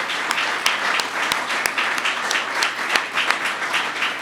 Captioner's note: applause